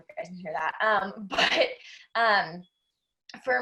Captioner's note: laughs